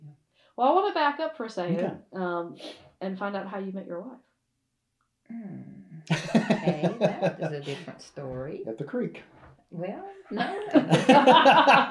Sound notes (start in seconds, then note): 4.3 laughs; 10.4 laughter